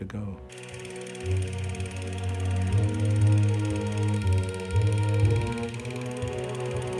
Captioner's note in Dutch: langzame muziek; projector zoemend